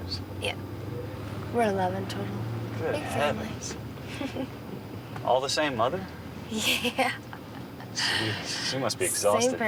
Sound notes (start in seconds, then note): 7.5 laughing